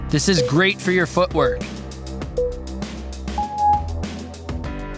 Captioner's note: timer beeping